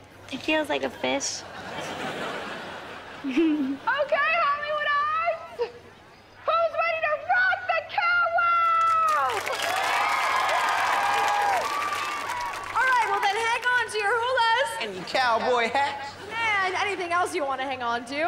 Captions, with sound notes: It feels like a fish. OK, Hollywood Arts! Who's ready to rock the Cow Wow? [cheering] Alright, then hang on to your hulas. And cowboy hats. And anything else you wanna hang onto.